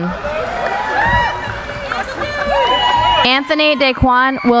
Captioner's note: cheering